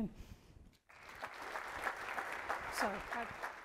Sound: audience clapping

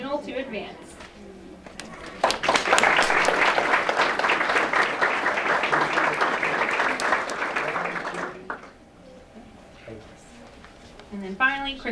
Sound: applause

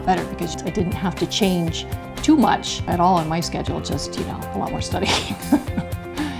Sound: laughing

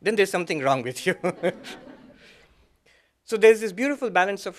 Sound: laughter

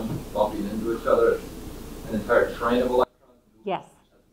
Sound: speaking faintly

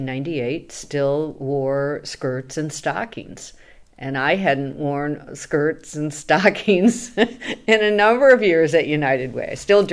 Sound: laughs

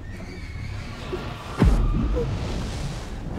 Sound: ghostly screeching

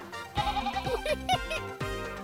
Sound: bleating; laughter

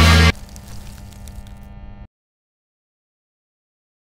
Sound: bubbles crunching

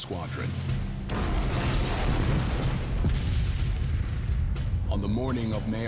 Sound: bombs exploding

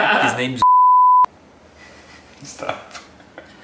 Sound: beep

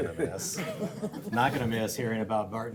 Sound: laughing

